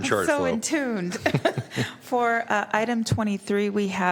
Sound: laughter

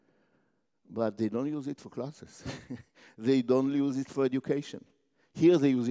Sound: laugh

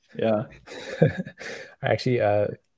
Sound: all chuckle

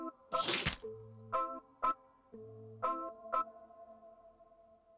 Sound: sputum splashes

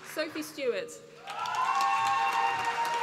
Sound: applause

